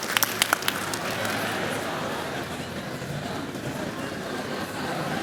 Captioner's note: chatter